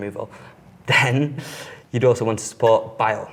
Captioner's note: giggles